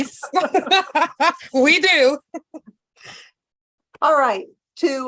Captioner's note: laugh